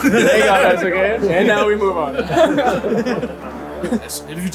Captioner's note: people laughing